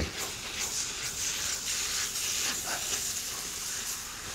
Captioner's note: spoon stirring